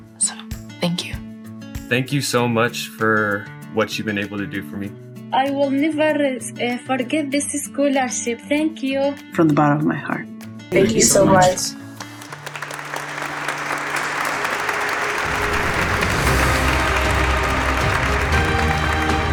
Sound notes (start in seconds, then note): 11.9 audience applauding; 15.2 bright music